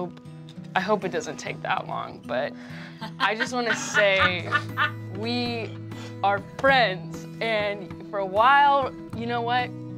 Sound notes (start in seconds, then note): 2.9 laughing